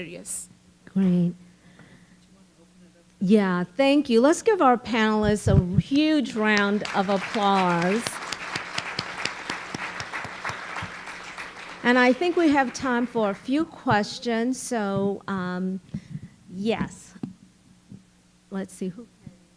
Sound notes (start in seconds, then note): 6.2 applause